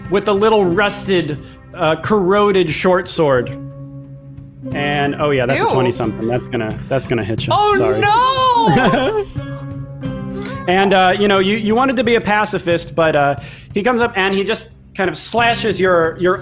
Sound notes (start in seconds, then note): 8.3 laughs